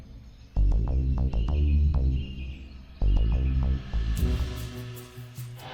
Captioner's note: birds chirping